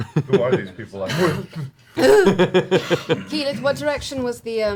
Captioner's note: gasps